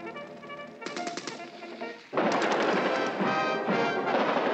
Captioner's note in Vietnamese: Tiếng súng máy